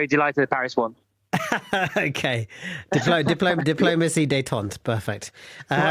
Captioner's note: laughs